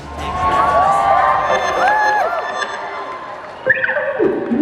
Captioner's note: audience cheering; electronic upbeat music